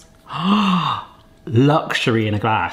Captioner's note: gasping